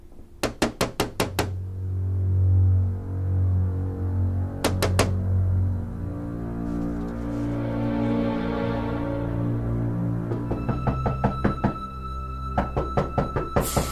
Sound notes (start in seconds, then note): 1.6 eerie dramatic music; 4.6 Nick knocking; 10.6 Nick knocking